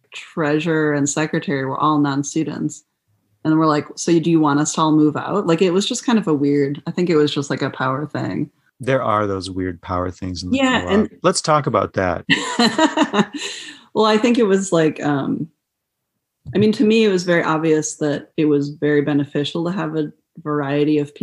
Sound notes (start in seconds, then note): 12.2 laughter